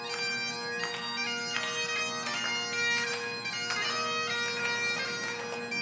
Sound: audience applauding

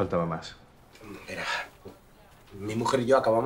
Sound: sighs

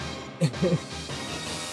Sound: laughs

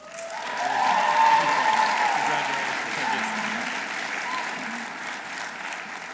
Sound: audience applauding; audience cheering

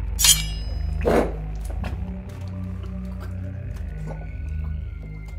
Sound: blade clanging; Ezra choking

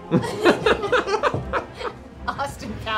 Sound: laughter

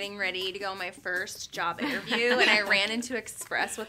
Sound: girls laughing

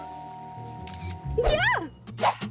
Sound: shrieking

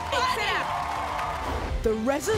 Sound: crowd cheering

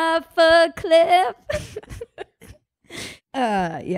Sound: both laugh

